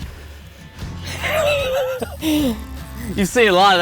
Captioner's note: laughs